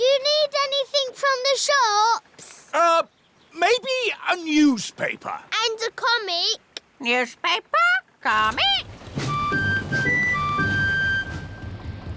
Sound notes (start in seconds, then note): none